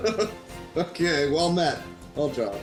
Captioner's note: giggles